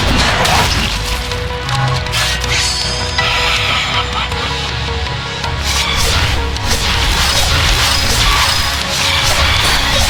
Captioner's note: shotgun